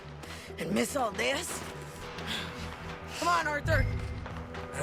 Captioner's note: breathing heavily